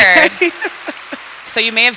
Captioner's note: audience applause